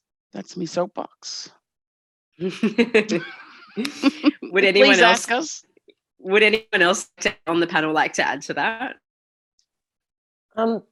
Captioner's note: laughter